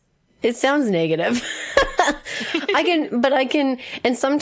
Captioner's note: laughs